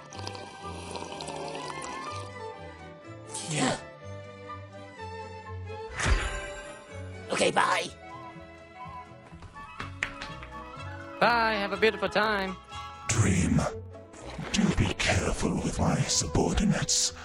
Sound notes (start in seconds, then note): 6.0 audible magic flash sound